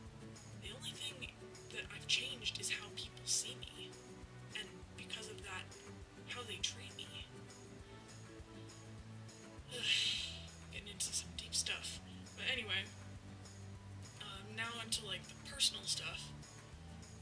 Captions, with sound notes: The only thing that I've changed is how people see me, and because of that, how they treat me. *sighs* Getting into some deep stuff... But anyway, now onto like personal stuff...